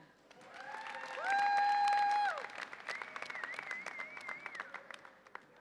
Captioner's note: audience applauds and cheers